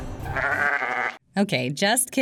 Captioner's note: sheep bleats